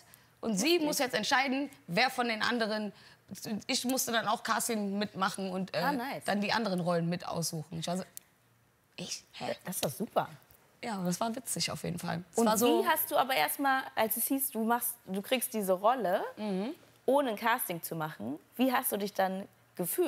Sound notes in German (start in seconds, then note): none